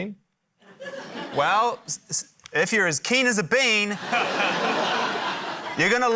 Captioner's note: stammers; laughter